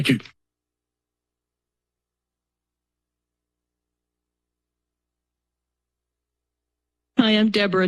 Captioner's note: silence